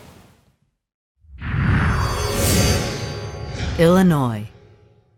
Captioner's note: sound effect